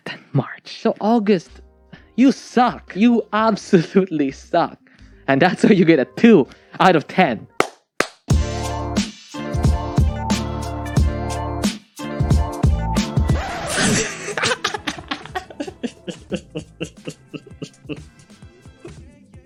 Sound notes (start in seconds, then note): 0.0 whispers; 8.0 claps; 13.3 laughs out loud